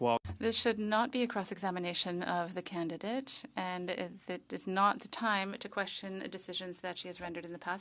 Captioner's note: speaking French